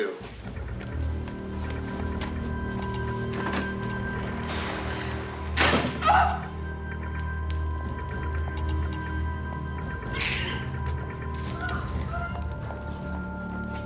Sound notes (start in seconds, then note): 0.2 ominous music; 6.6 Nancy sobbing; 8.2 ominous music